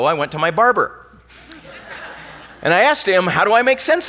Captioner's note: laughing